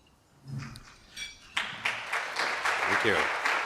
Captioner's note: applause